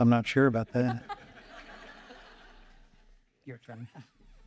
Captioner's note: audience laughing